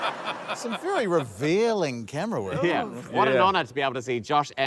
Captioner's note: laughter